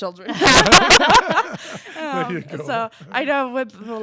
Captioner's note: laughter